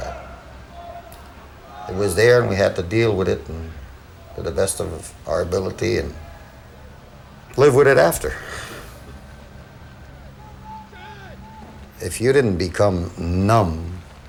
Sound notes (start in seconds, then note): 8.0 sighing